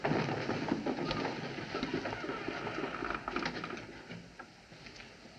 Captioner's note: room Door Hinges Creak